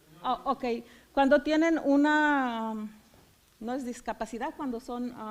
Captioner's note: foreign language